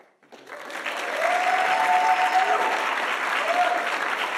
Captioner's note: audience applauding